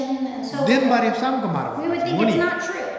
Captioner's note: speaking tibetan